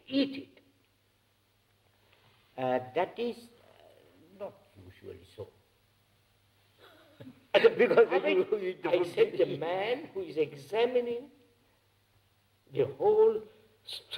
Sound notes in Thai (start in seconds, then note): 7.6 เสียงหัวเราะ